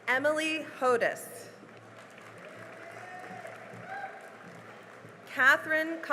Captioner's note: cheering and applause